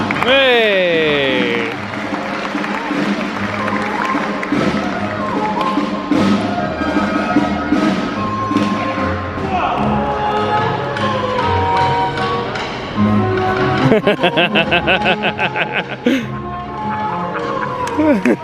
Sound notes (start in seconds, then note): 0.0 crowd applauding; 3.4 light upbeat music; 13.8 laughing